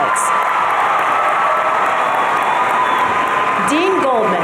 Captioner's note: audience cheering